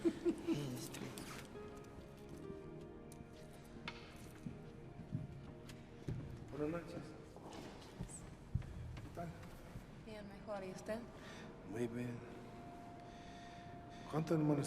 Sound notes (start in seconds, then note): 0.0 Roland laughing; 6.4 Roland and Allegra speaking in Spanish